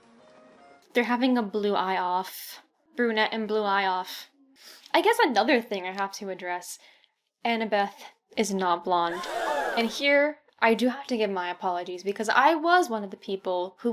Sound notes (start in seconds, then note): 8.9 shocked crowd noise